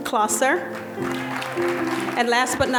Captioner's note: audience applauding